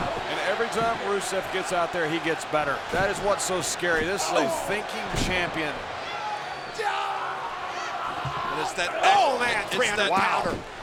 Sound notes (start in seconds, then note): 3.6 blows thudding; 5.9 Rusev yelling